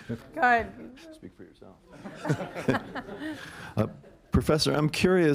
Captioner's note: laughter